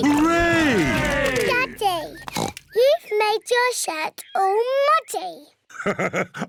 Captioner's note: oinks; laughs